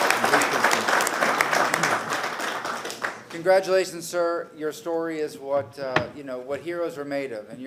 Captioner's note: applause